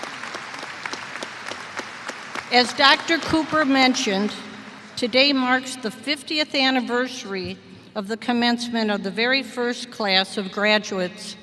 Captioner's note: applause